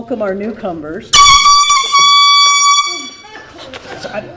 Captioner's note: air horn blares